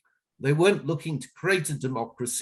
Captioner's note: none